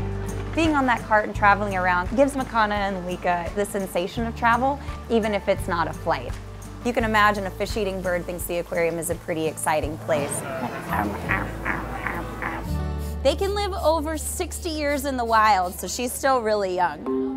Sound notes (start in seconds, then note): 10.3 om nom nom nom nom